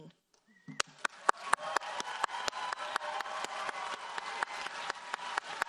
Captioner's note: audience cheers and applauds